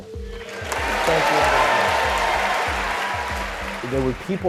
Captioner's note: audience applauding